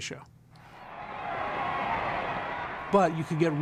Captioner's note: crowd cheering